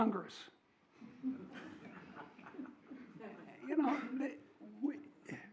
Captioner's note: audience chuckles